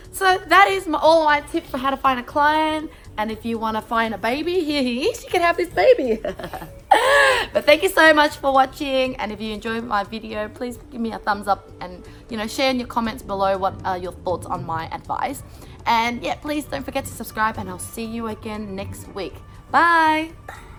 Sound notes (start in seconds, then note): 5.8 laughs